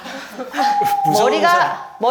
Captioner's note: only nervous laughter comes out